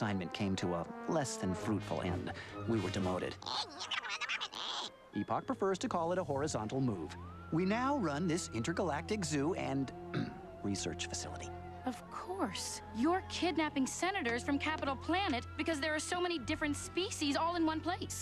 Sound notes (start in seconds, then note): 10.1 clears throat